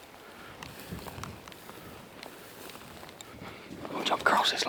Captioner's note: undergrowth softly rustling